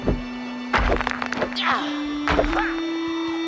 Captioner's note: grunting